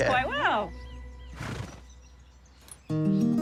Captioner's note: snorts